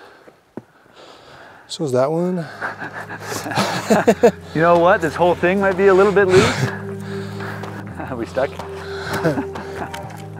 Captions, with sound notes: - So is that one. (both laughing) - You know what, this whole thing might be a little bit loose. Are we stuck?